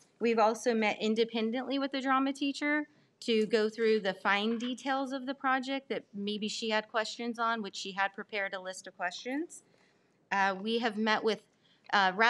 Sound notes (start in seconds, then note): none